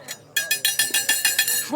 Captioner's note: tinkle